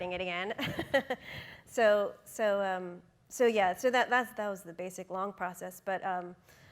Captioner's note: laughing